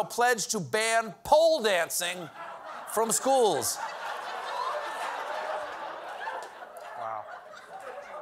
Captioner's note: laughter